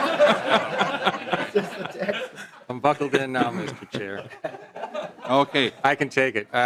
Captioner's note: laughing